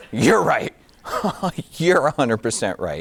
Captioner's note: giggling